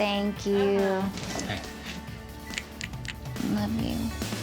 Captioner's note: smooching